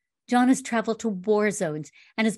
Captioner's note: none